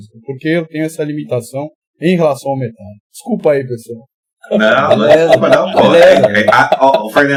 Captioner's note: laughs